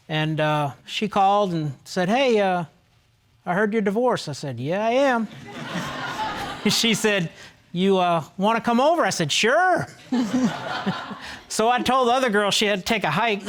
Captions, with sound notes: and uh, she called and said, "Hey... "I heard you're divorced." I said, "Yeah, I am." (ALL LAUGHING) She said, "You, uh, "wanna come over?" I said, "Sure." (LAUGHING) So, I told the other girl, she had to take a hike.